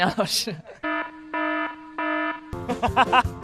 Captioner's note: incoming laughter